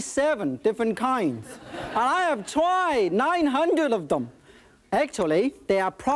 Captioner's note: audience laughing